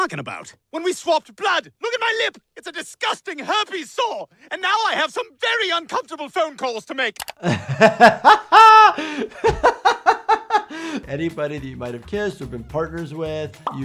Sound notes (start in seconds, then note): 7.3 doctor laughing